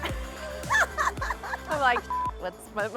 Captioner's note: laughing